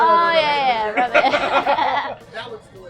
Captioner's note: everyone laughing